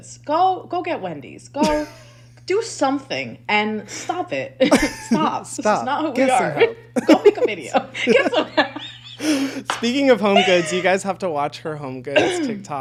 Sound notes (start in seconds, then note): 6.6 both laughing